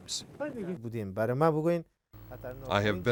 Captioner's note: non-english speech